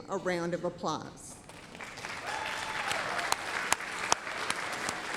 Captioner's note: applause, cheering